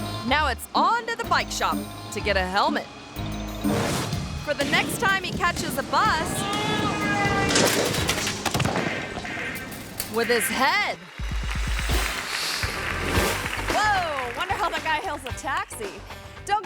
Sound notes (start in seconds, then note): 3.6 graphics whooshing; 6.3 bus horn honking; 7.5 cyclist thuds; 11.2 hands clapping; 11.4 graphics whooshing